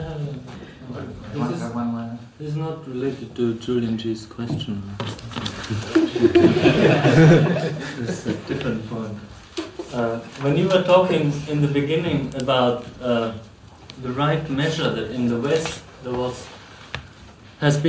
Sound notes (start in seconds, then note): 5.6 laughs; 5.8 laughter